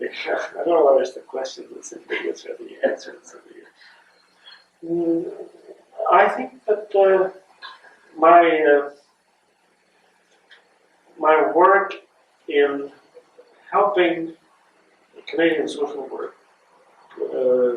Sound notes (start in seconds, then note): 2.0 laughter